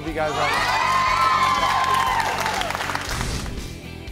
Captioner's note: cheering